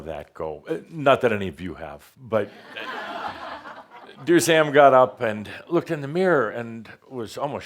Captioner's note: laughter